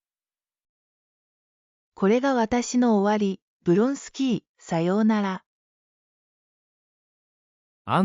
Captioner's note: inner monologue